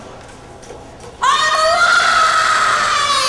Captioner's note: screaming